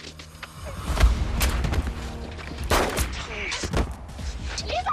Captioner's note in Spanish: Disparo